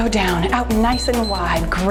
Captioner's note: timer beeps